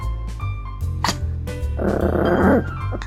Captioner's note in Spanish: Gruñe